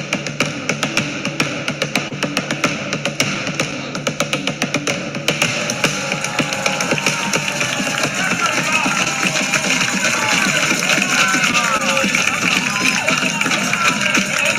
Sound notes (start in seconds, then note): 5.3 people cheering indistinctly